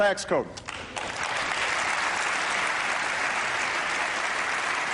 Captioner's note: applause